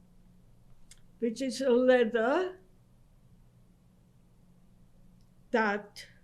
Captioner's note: pauses for 3 seconds